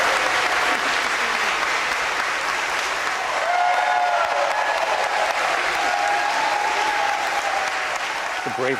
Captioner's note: applause